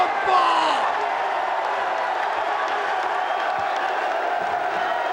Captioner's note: crowd cheering